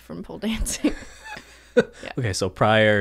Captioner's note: they chuckle